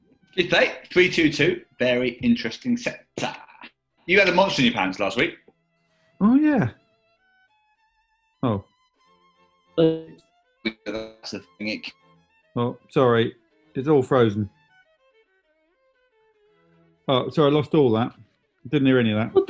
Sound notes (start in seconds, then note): 9.6 distorted voices